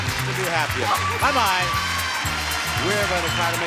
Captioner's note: audience cheers and applauds